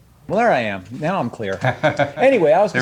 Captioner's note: laughs